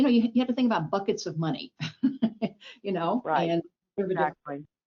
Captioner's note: chuckles